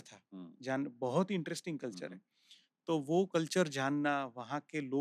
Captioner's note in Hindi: नाक से की जाने वाली आवाज़